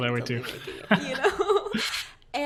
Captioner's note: laughing